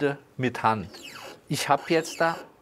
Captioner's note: squeaking